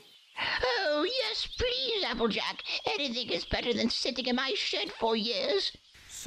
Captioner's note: excited